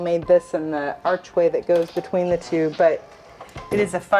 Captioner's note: door squeaks